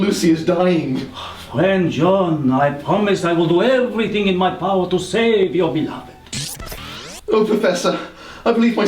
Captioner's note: swoop